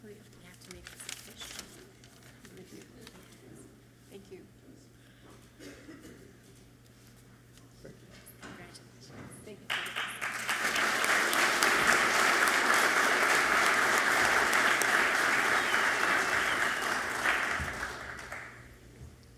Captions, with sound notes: Wait, we have to make this official. - Thank you. - Thank you. - Congratulations. - Thank you. (audience clapping loudly)